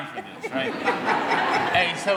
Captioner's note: audience laughing